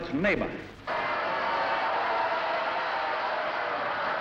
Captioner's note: yelling